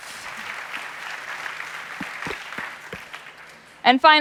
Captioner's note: applause